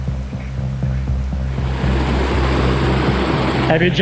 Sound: water rushing

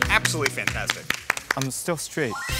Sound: applause

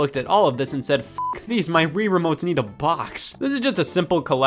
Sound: beep

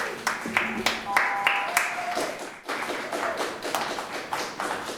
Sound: audience applaud

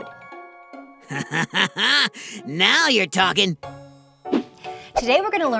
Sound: laughs

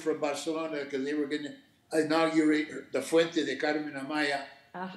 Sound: speaking Spanish

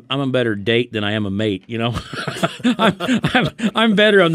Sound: laughs

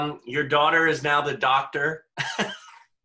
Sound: laughs

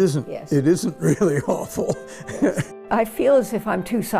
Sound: laughs

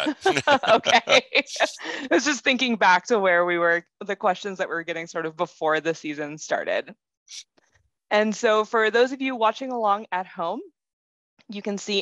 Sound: laugh

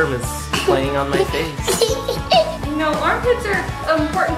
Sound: laughing

